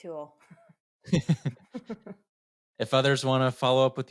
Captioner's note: both laugh